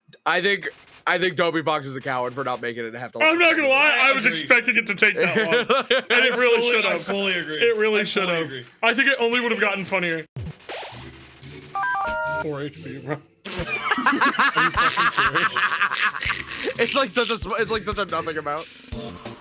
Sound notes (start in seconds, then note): 4.8 laughs; 13.4 all laughing